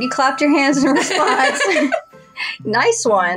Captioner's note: chuckle; laugh